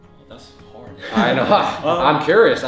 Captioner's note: chuckling